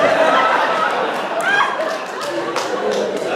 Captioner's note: laughter